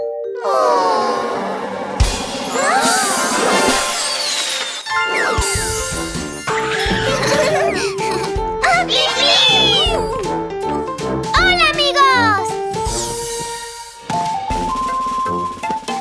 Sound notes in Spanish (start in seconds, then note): 7.1 Risas; 13.2 Música Alegre